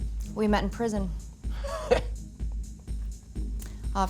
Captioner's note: laughs